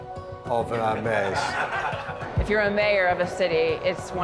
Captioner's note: audience laughs